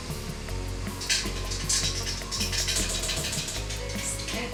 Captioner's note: sound of jug tapping against metal bowl as egg whites are tipped in